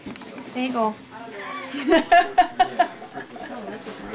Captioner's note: laughing